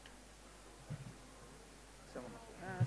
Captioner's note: background chatter